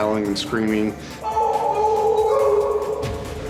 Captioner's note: yelling